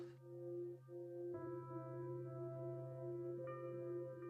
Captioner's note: light chiming bells